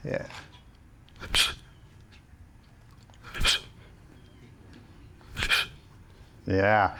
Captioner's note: both chomping